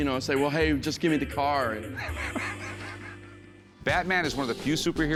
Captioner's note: laughs